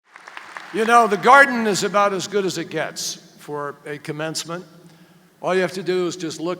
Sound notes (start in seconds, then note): 0.0 applause